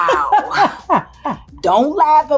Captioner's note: laughs